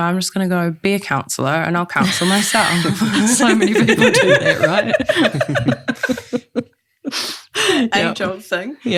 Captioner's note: all laugh